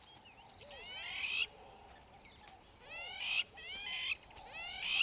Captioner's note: bird calling